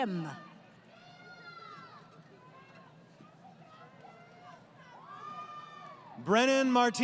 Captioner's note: crowd Cheering